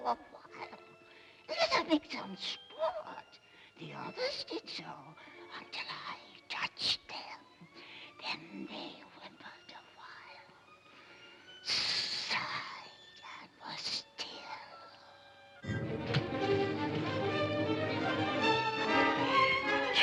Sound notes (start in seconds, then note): 11.6 snake hisses; 15.5 suspenseful music